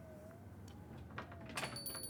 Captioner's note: door Chimes